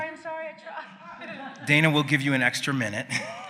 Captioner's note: laughs